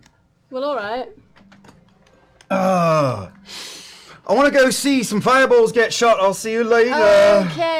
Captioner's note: groans